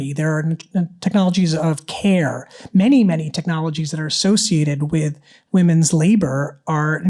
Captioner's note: none